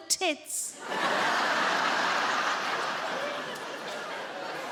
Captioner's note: audience laughing